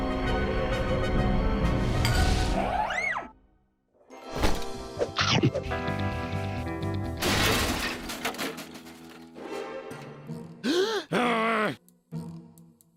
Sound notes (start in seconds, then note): 7.2 clattering noise; 10.6 gasp; 11.1 loud grumbling